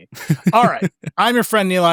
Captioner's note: laughs